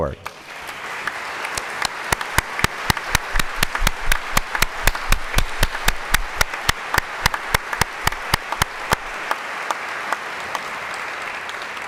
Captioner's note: applause